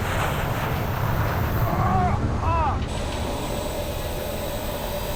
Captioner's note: groaning